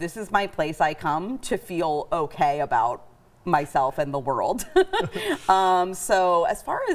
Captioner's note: laughs